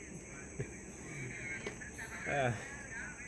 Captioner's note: laugh